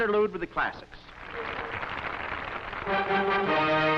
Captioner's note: applause